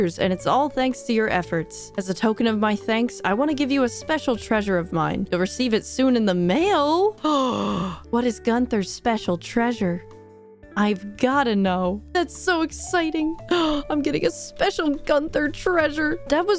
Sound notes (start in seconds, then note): 7.2 gasp